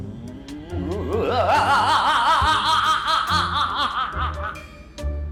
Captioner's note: laughing